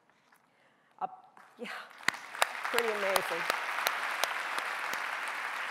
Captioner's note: clapping